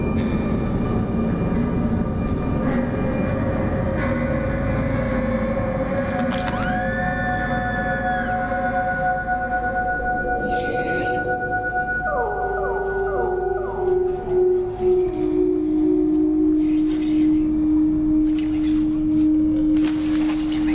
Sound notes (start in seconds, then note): 0.3 ominous music; 6.4 screams; 9.5 ominous music; 14.8 ominous music; 14.8 professor whispers